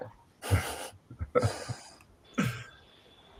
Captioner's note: laughter